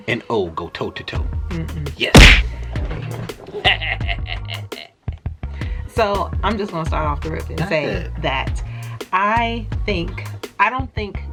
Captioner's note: punch sound effect